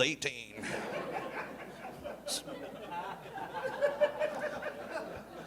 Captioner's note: audience laughing